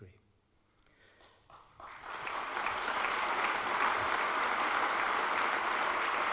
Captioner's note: applause